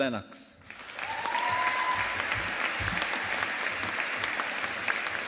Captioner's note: audience applauding